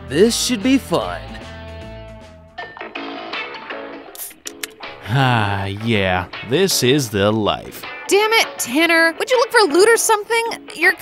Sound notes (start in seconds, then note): 2.8 upbeat reggae music; 3.0 can opening